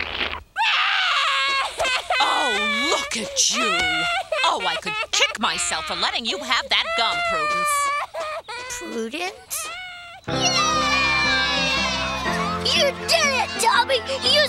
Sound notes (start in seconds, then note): 0.9 crying; 10.1 kids cheering